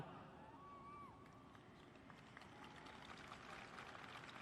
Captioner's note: audience applauding